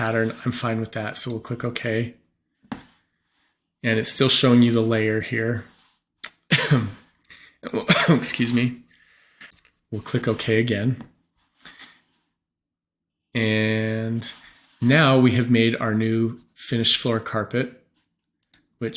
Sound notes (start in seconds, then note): 6.3 cough